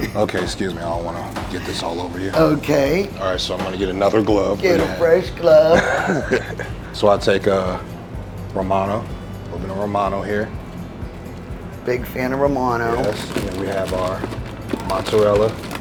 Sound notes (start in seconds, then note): 0.0 chuckles; 5.5 chuckles